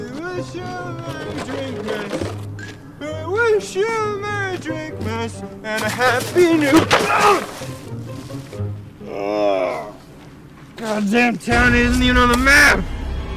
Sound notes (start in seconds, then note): 5.8 Santa grunts; 9.4 Santa groaning